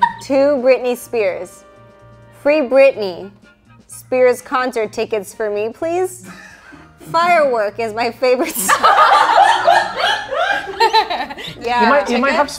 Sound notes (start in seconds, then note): 6.2 all giggling; 8.4 all laughing